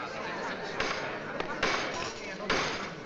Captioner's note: gavel pounding